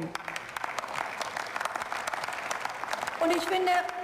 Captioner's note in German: Beifall